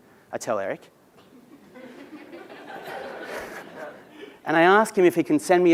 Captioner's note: laugh